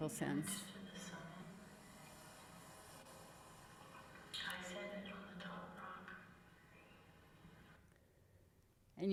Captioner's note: echoing resonant voice